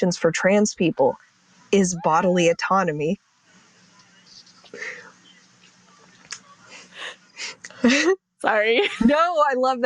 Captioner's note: cat meows